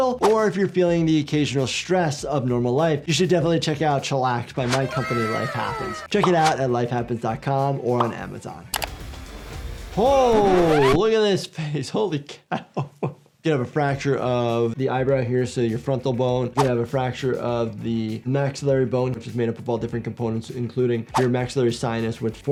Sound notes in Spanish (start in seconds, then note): 8.7 música rock; 12.5 riendo